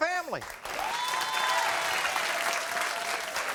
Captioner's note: applauding